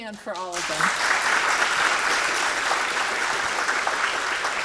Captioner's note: audience clapping